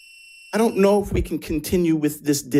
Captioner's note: buzzer buzzing